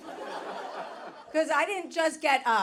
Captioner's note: audience laughing